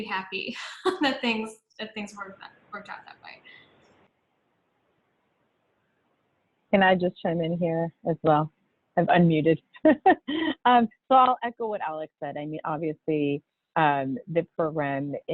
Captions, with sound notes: That things worked out that way. - Can I just chime in here as well? I've, un-muted. (laughs) I'll echo what Alex said. I mean, obviously the program is,